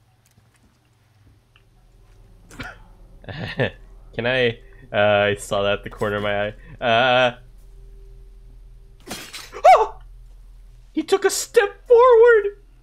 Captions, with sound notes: *Nervous Laughter* Can I-? UuuUUUuhhhh...I saw that out of the corner of my eye. UuuUUuuuUHHHH... *clank, FEAR yelp* He ToOk a StEp FoOoOrward!